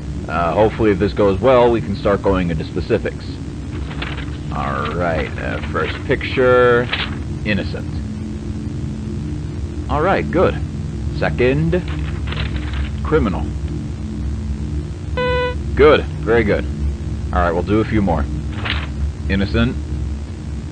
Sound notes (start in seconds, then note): 3.7 paper rustling